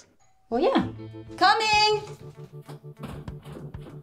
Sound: door bell rings

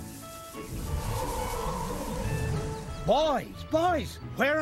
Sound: wind whistles softly

